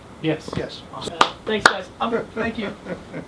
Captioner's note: claps